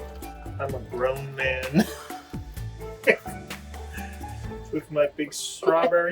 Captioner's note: giggles